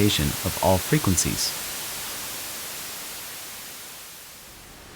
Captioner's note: white noise playing